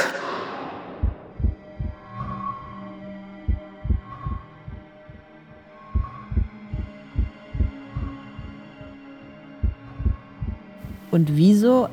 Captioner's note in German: Herzschlag